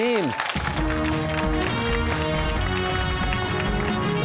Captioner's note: cheers and applause